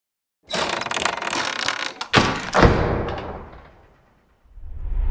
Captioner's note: lock rattles and clanks